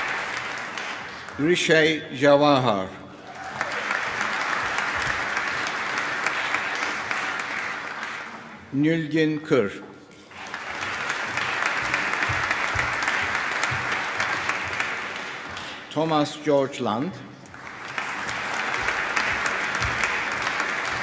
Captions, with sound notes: Hrishi Jawahar. (CHEERING, APPLAUSE) Nilgun Kir. (APPLAUSE) Thomas George Lund. (APPLAUSE)